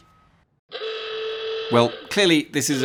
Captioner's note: klaxon